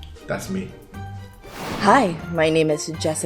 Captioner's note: air whooshing